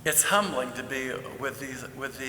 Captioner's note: none